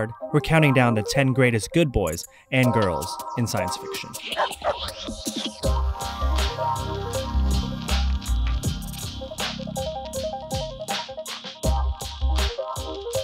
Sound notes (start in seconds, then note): 4.5 barking; 5.6 upbeat music